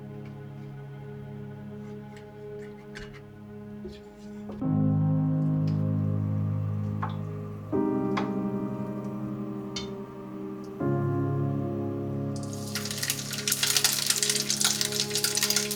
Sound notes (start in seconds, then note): 12.3 sizzle sound